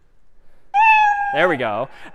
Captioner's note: میو زدن